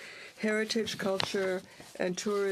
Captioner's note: speaking French